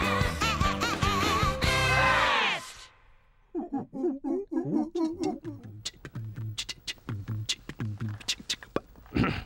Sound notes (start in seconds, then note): 3.5 monkeys hooting; 5.1 imitating band playing music